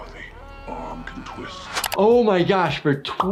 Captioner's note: person screaming